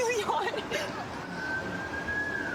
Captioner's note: siren wailing